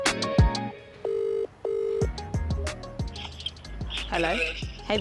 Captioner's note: cell phone rings